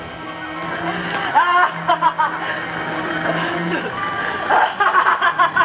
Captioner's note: laughter